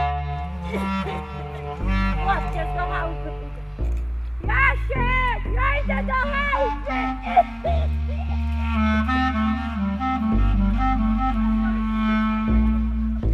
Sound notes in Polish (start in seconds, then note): 7.2 kaszel; 8.8 melancholijna muzyka